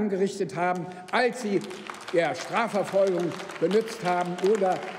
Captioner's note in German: Beifall beim BÜNDNIS 90/DIE GRÜNEN und bei der LINKEN